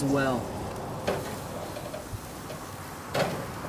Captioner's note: sizzling